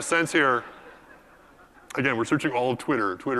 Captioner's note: laugh